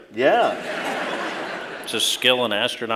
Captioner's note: laughter